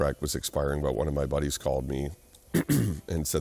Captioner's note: clears throat